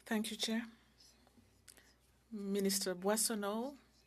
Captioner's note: speaking French